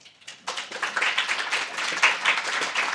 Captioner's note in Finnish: Yleisö antaa aplodit